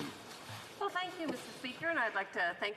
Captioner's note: speaking French